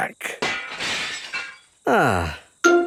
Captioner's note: glass shatters